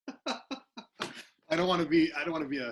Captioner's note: laughs